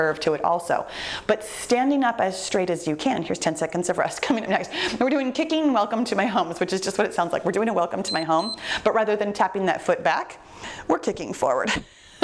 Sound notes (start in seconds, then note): 8.0 timer beeps; 12.0 laughs